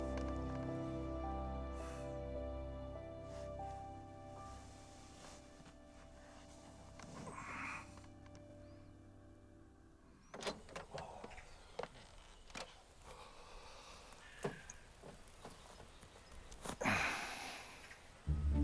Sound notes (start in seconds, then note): 10.3 door opens; 16.5 groans softly